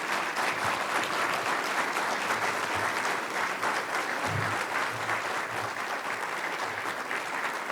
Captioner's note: applause